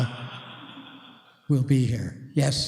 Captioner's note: laughter